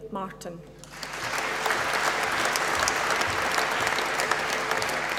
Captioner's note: applause